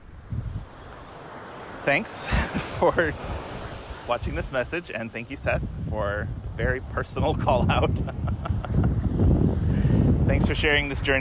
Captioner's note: laughs